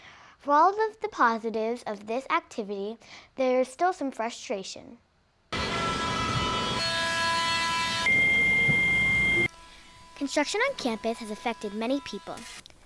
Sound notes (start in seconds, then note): 5.5 loud construction machinery